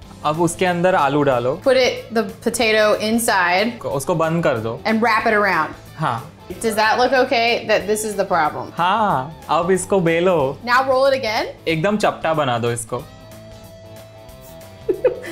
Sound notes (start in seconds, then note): 0.1 speaking in Hindi; 3.9 speaking in Hindi; 6.0 speaking in Hindi; 8.8 speaking in Hindi; 11.6 speaking in Hindi; 14.8 laughs